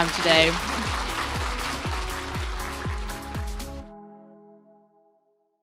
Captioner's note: applause, music playing